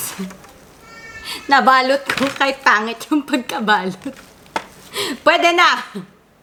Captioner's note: laugh